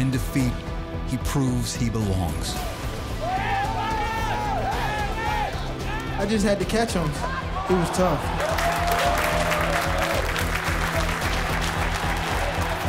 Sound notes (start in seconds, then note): 4.4 cheering; 10.0 applause